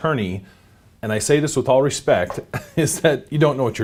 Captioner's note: chuckling